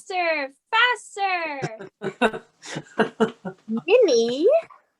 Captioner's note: Professor Bhaer chuckles